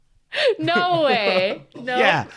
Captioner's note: both laughing